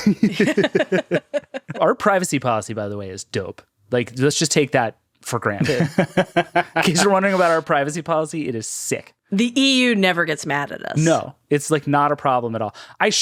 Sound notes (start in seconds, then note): 0.0 all laughing; 5.6 laughing